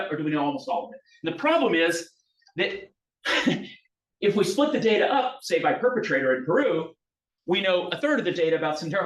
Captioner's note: laughs